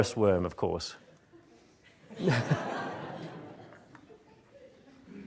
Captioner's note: audience laughing